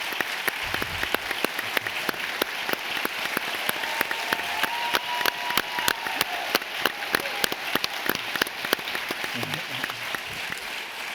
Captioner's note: applause